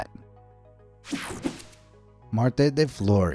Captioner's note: soft upbeat music; air whooshing